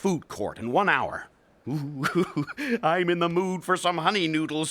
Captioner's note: chuckling